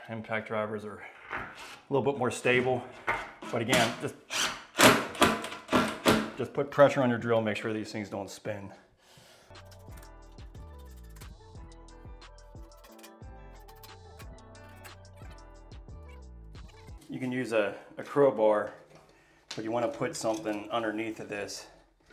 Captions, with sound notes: Impact drivers are a little bit more stable, but again, (drill whirs) just put pressure on your drill, make sure these things don't spin. (calm music) You can use a Crow bar, but you want to put something underneath of this,